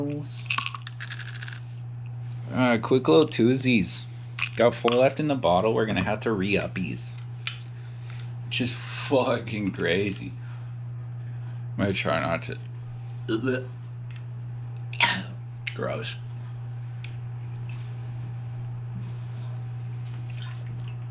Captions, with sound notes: All right quick little twosies got four left in the bottle we're gonna have to re-up these Which is fucking crazy I'm gonna try not to (gagging) Gross